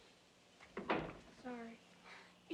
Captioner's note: door closes